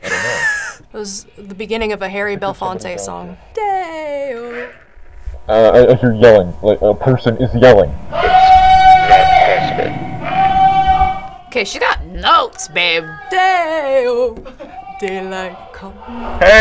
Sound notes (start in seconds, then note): 0.0 laughs; 8.1 man yells